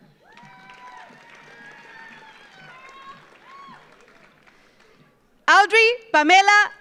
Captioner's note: audience cheers; audience applauds